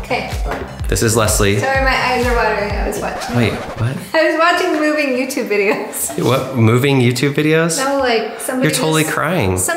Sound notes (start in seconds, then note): 1.7 record scratching